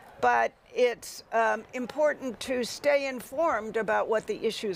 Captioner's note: none